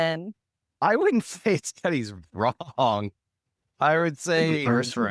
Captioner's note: laughs